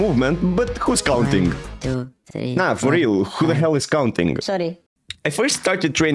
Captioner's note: counting in the background